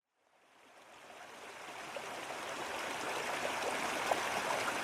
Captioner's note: water flowing